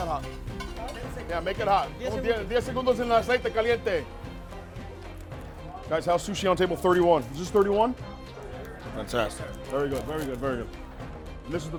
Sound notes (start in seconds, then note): 2.9 speaking in Spanish; 2.9 upbeat violin music